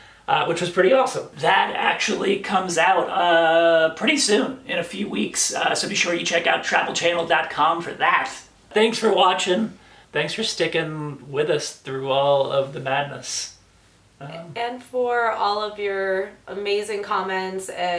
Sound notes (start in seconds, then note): none